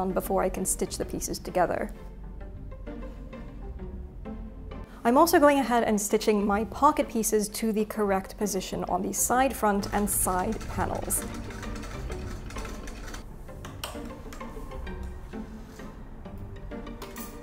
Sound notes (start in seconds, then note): 2.5 whimsical music; 11.5 sewing machine buzzes; 13.6 whimsical music continues